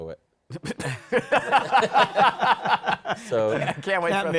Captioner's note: laughter